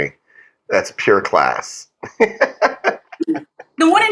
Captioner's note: laugh